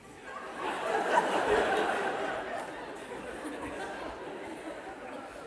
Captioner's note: laughter